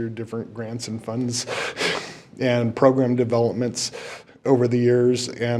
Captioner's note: chuckles